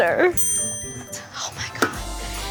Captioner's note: alarm dings; gasps